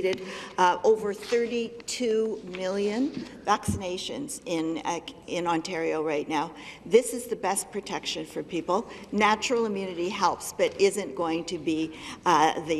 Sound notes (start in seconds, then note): none